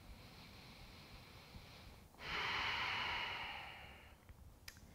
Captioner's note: deep breathing